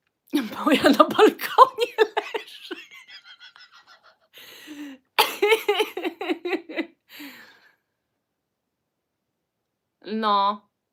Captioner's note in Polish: śmiech